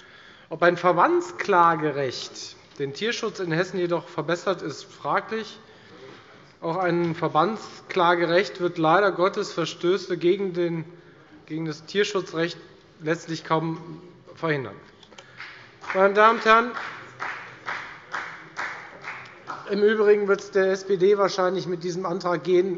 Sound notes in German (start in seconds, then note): 15.3 Beifall bei der FDP